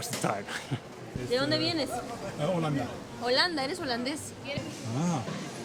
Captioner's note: Spanish